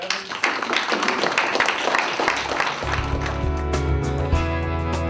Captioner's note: applause